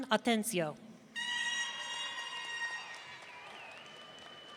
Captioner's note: audience cheering